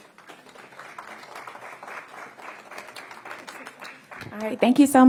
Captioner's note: applause